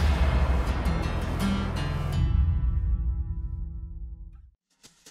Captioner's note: whooshing; energetic music